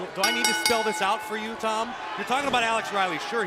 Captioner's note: bell